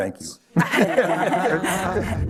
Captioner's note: laughter